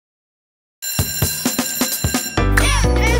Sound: bell ringing

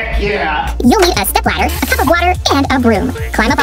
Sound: funny voice

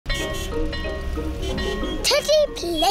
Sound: car horns beeping

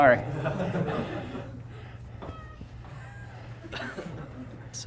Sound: students laughing

